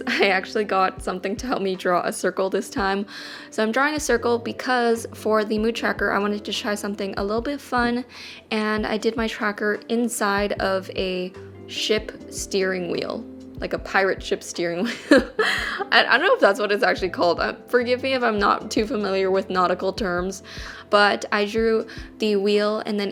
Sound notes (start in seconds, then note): 14.9 laughs